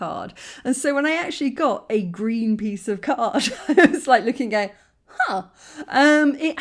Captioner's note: laughing